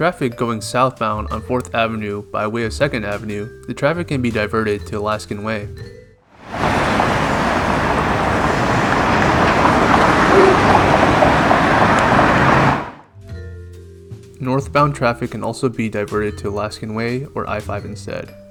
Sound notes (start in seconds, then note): 6.3 loud ass traffic sounds for something that was supposed to be a waterfront park